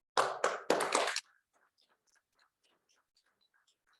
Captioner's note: audience applauds